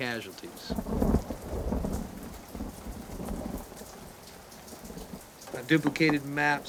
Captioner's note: rain pattering; thunder rumbling